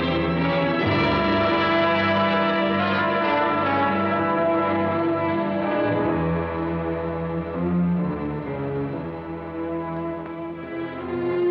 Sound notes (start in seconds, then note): none